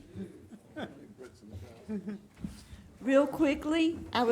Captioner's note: laughing